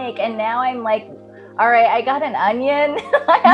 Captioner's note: laughing